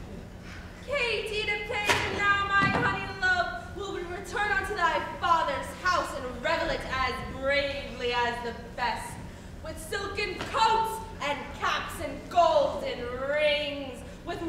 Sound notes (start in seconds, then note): none